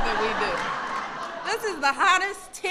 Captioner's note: laughter